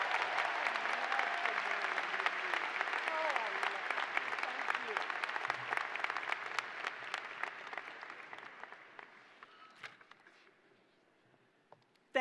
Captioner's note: cheers and applause